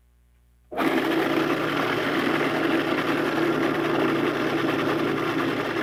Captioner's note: food processor grinding